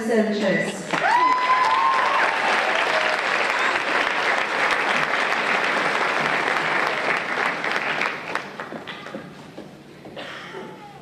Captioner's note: applause and Cheers